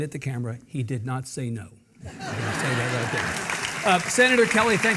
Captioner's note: Mark and audience laughing